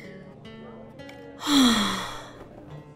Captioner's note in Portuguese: Suspiro